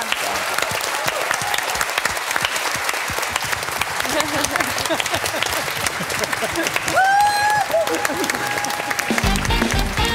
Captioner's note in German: Applaus